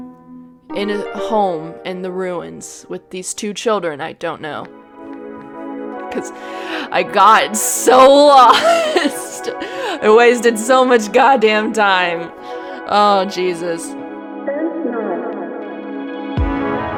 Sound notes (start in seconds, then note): 8.2 laughs